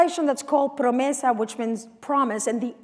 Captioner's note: non-english speech